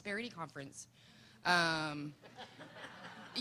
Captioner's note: laughter